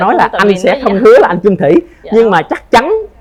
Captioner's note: laughs